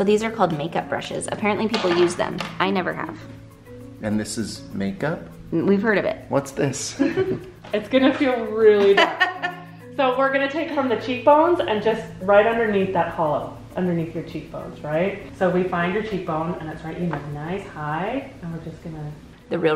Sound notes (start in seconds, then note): 7.0 laughing; 8.8 laughs